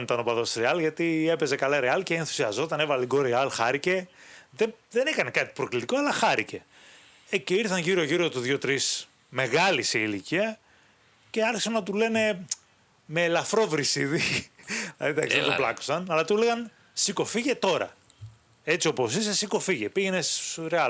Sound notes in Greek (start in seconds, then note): 14.2 γέλια